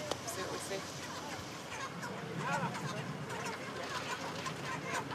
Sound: cackling helplessly

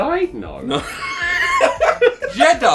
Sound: laughs

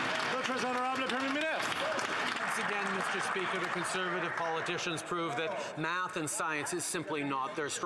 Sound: some Applause

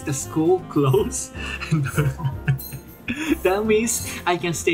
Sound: chuckle

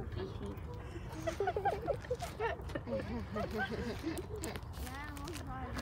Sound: laughter

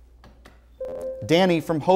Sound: buzzer

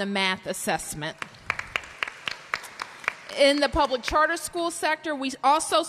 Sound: applause

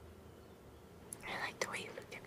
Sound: whispers

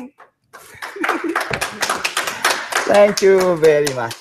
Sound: applause

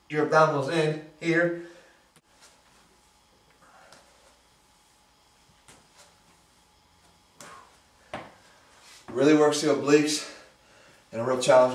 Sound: pause

